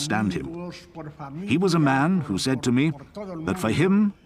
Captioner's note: speaking foreign language